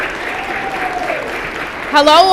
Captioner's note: applause